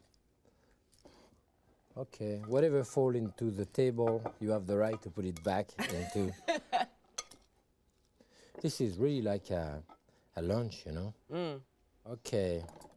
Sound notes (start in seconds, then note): 5.8 tongs clinking; 5.8 laughing